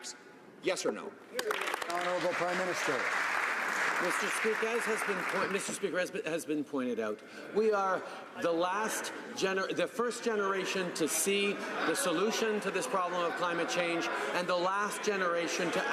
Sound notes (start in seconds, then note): 4.0 some Applause